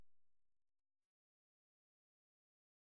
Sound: silence

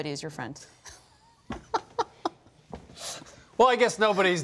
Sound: laughs

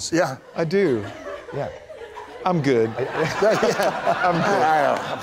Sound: laughter

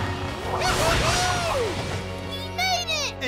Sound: cheering

